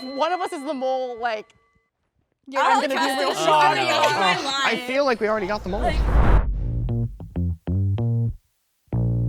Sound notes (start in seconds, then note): 2.5 group chattering indistinctly; 6.5 upbeat music